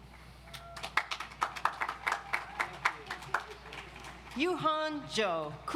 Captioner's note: audience applauds